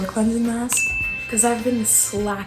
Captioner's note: chime